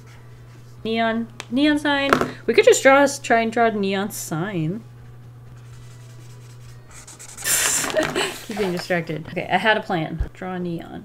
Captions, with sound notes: Neon, neon sign, we could just draw, try and draw neon sign. [Laughs] Keep getting distracted. Okay, I had a plan, draw neon.